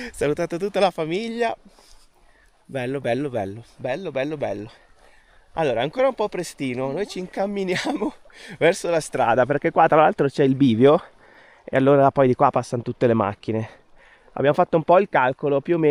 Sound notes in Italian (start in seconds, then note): 7.6 risate